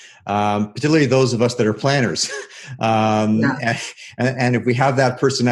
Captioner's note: laughs